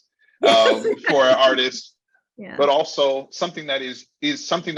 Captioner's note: laughing